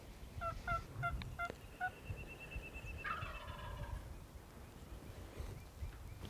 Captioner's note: turkey calling and birds chirping